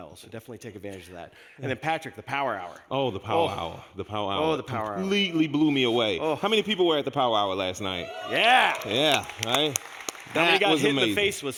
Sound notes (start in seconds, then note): 7.8 people cheering